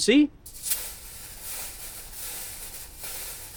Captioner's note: coils rattle